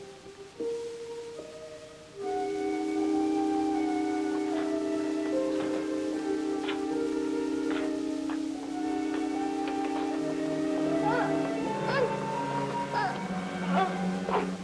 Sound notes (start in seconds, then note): 2.3 dramatic instrumental music; 5.5 door clicks; 11.0 woman gasps